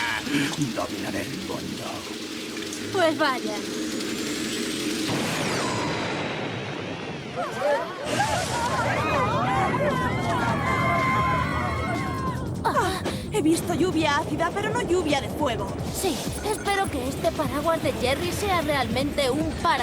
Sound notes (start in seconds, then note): 0.0 laughing diabolically; 4.9 blast; 7.2 crowd yelling indistinctly